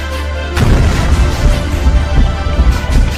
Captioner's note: boom